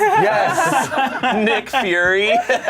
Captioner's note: group laughs